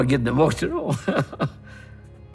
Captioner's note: chuckles